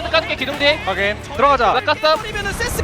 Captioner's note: BuZz